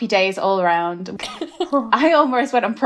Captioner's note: laughing